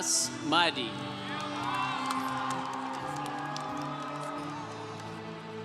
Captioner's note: congregation cheering